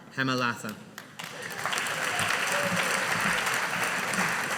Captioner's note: audience applauding